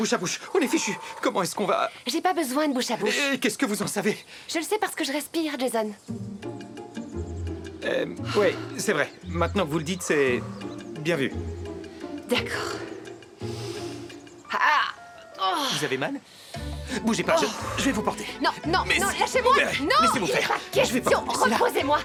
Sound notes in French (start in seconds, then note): 12.2 gémissement